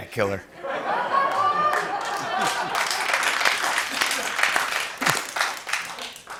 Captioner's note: laughter and applause